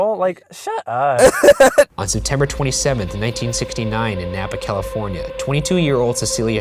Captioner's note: voiceover